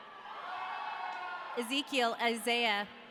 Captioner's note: audience cheering